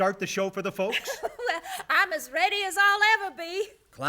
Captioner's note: laughs